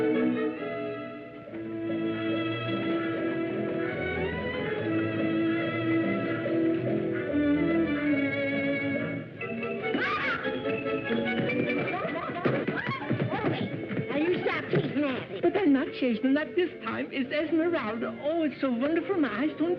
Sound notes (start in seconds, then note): 9.8 yell; 11.9 laughter